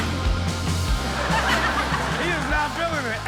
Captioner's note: all laugh